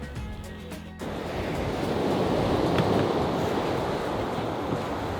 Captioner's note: waves crashing